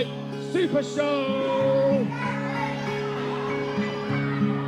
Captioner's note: chatter